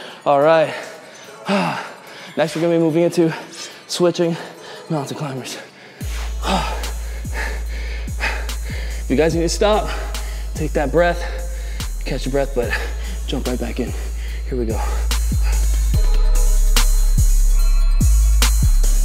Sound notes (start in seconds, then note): 6.7 heavy breathing; 15.5 melodic hip-hop music